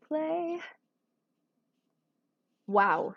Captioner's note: silence